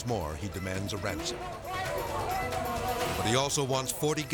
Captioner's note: warden speaking Portuguese